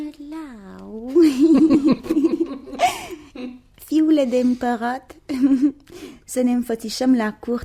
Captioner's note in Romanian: Râsete